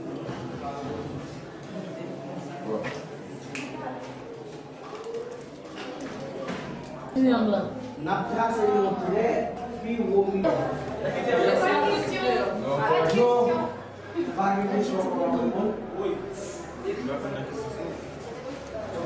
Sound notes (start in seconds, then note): 8.9 speaking French, Kreyol